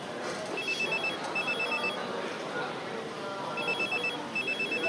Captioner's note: mobile phone rings